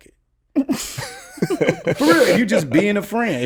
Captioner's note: laughs